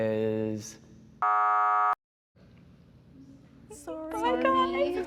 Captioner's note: buzzer